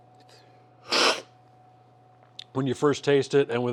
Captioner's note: sipping